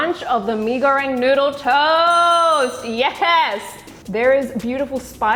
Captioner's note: bell dings